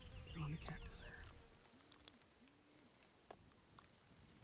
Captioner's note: whispering